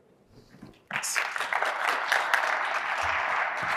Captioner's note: applause